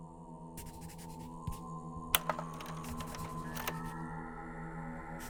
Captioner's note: pencil scribbling